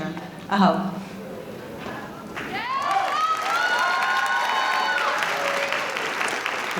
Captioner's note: audience cheering